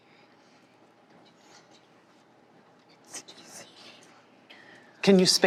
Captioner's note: children whispering